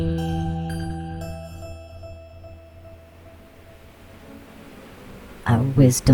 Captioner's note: music fades out; digitized bee swarm, gently undulating white noise fades in; The Buzzing voices